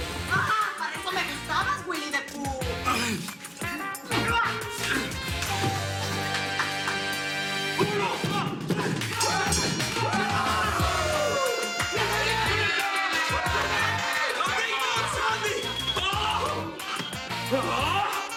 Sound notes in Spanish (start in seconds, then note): 10.0 Exclamaciones; 12.6 Risas